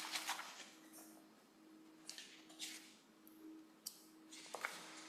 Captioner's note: papers rustle